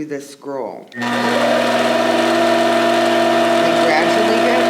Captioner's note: machine whirring